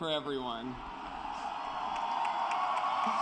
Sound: cheering and applause

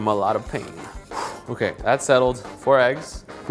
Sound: huffs

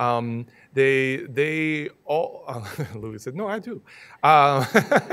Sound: laughing

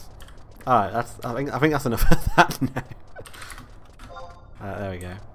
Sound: laughs

